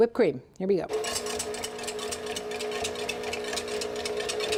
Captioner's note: mixer whirs